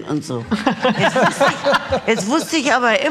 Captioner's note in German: Lachen